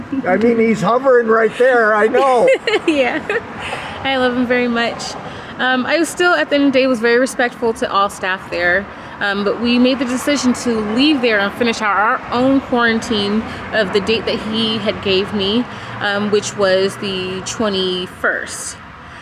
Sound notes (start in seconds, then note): 1.4 laughing